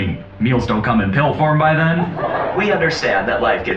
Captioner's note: laugh track